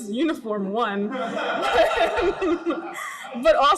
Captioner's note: group laughs